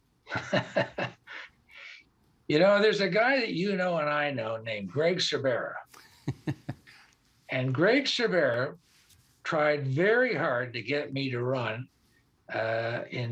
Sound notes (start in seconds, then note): 5.9 laughter